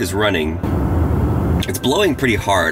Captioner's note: heat blows